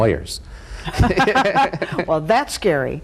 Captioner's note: both laugh